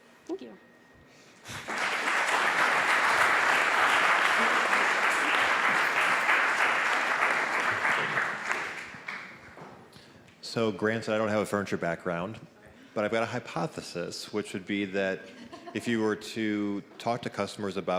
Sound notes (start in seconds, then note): 1.4 applause